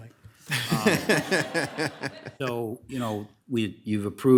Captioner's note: people laughing